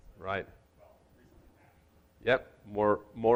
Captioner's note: speaks off microphone